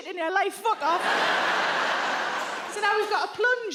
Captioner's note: audience laughs